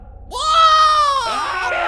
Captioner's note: Mick screaming; puppet screaming